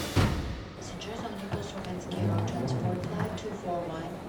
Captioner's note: woman announcing on pa system